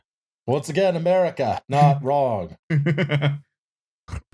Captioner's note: chuckles